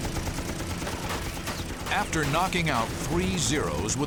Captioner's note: bullets whirring